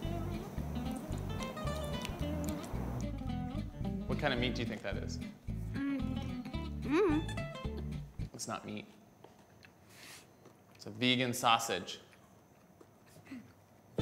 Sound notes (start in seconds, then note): none